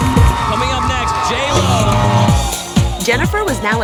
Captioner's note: audience cheering